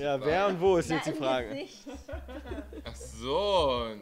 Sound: laughing

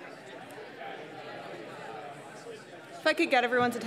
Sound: people chatting indistinctly

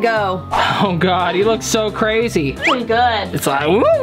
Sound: chuckles

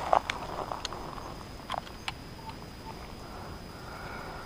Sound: birds chirping

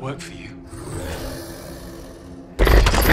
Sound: grunting; banging on walls

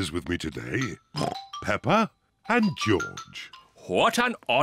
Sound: oinks

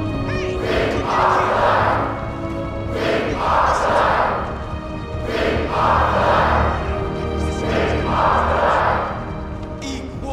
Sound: chanting

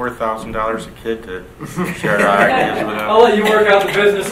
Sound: people laughing

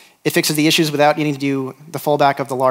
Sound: none

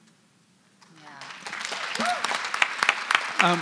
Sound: applause

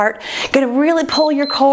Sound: timer beeps

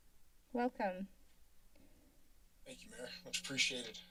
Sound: silence

